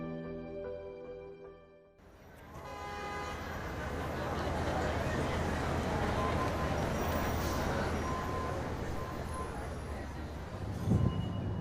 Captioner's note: city sounds